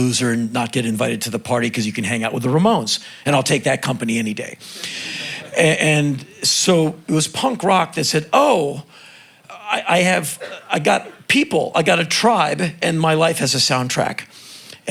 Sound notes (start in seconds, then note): 4.9 crowd chuckling